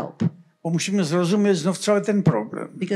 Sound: foreign language

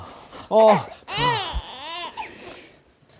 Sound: shivering

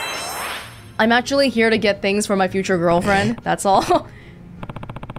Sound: chuckles

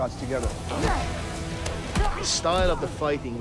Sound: both grunting

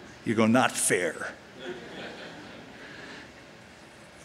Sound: laughter

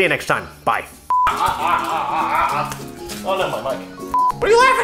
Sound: excited screaming

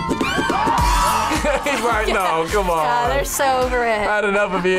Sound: laughs

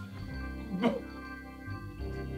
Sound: attempts to coughs up lung

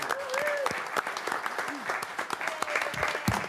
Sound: applause

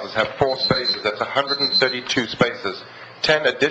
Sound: alarm beeps

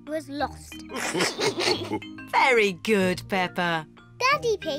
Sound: all laugh

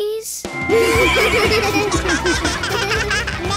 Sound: laughing

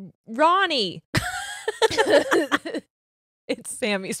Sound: both laughing

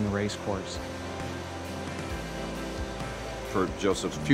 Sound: motor hums

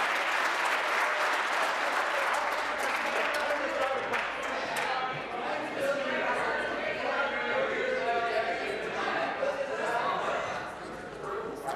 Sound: applause

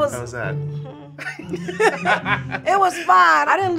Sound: laughs

